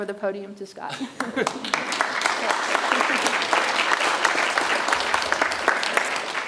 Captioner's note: audience chuckles and applauds